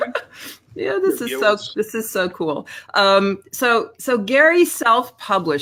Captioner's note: laughs